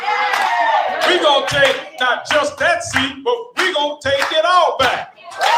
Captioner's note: applause